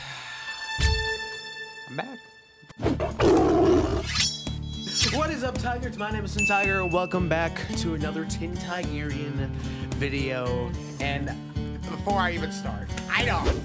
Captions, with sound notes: I'm back. [Tiger roars] What is up, Tigers? My name is, Welcome back to another Tin-Tigerian video. And before I even start - I know!